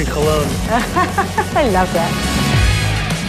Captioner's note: laughs